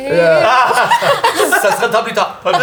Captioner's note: laughter